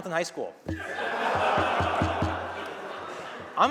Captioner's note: laughter